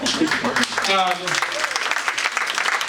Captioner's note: audience applauding